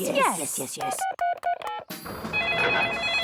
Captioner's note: phone beeping; phone ringing